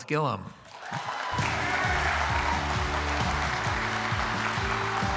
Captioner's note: applause,music playing